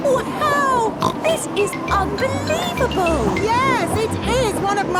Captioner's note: snorts